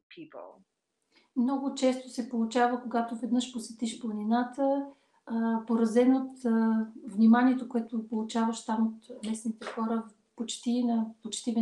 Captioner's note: foreign Language followed by English Interpreter